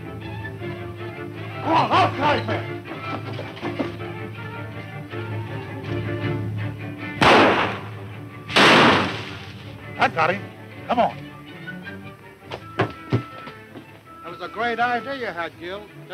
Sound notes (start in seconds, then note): 0.2 fast tense music; 2.9 feet scuffling on the floor; 7.2 loud gunshots; 8.8 branches rustling; 12.4 footsteps on wood